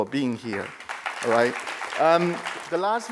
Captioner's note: crowd applauding